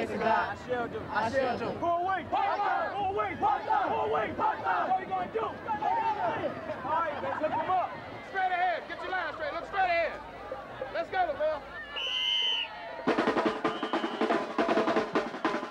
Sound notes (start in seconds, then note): 13.0 drumming; 13.4 whistle blows